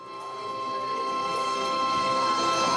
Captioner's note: background music, audience talking